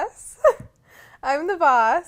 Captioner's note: laughs